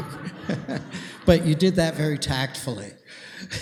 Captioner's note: laughter